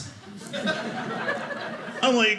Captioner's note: audience laughing